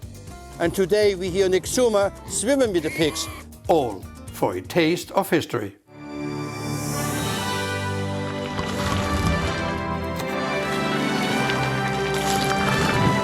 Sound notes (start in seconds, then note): 2.6 pigs oink; 5.8 orchestral theme music